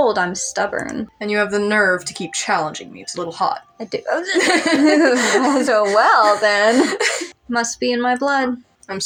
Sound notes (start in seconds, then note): 6.8 laugh